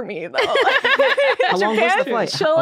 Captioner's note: laughing